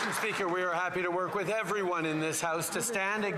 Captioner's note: some Applause